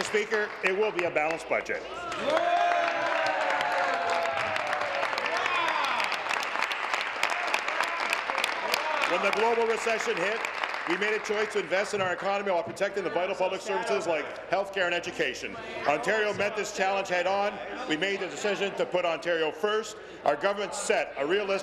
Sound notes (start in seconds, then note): 2.0 applause; 5.6 applause and cheering